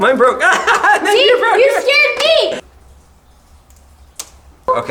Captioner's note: laughs; stalactite cracking